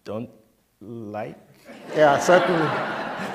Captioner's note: laughter